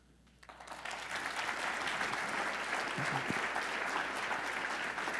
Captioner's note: audience applauding